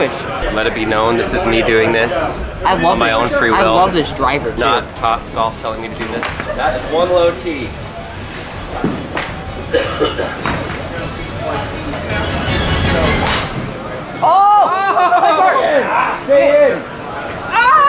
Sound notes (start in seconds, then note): 12.3 dramatic music; 13.2 clack; 14.2 group cheers